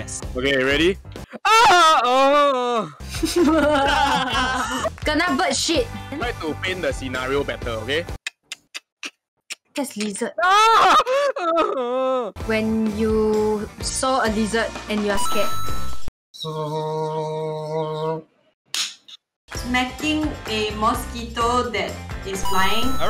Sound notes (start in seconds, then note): 1.4 horrible singing; 3.1 all laughing; 8.1 mimics lizard; 10.4 cries out loud; 16.2 horribly attempted sound effect; 18.7 clap